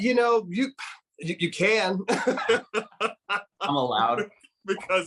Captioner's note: speaker laughing